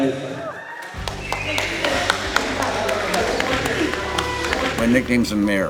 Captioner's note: audience cheers and applauds